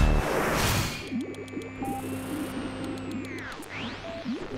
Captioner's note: radio tuning